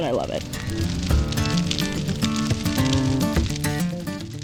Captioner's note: fire crackling